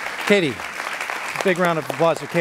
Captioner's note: applauding